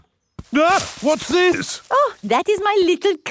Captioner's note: exclaims